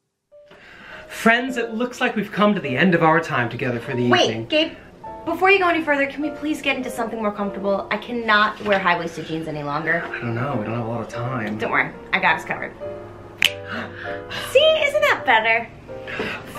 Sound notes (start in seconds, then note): 13.4 snaps